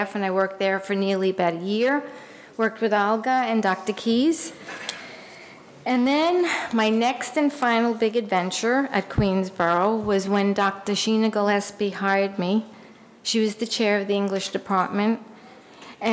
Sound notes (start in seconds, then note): none